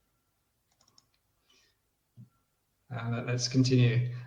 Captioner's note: clicks mouse